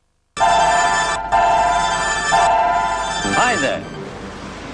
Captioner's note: electronic bleeping